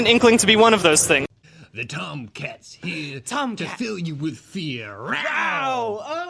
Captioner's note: meowing